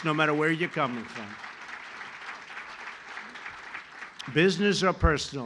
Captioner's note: applause